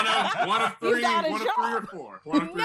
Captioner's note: laughter